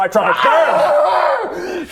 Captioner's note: aaaarrgghagh